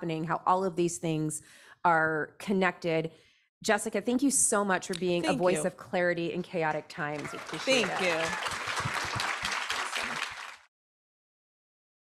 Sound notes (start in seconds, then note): 7.0 audience applauds